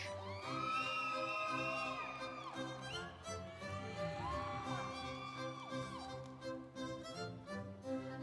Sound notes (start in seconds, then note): 0.0 instrumental music; 0.1 audience cheering